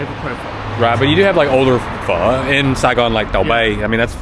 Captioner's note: speaking Vietnamese